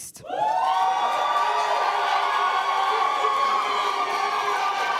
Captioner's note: applause